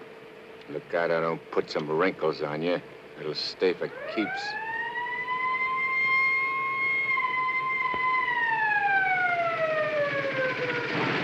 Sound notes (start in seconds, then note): 3.8 police siren